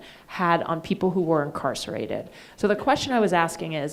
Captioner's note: none